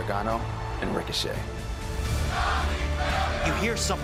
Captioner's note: fans chanting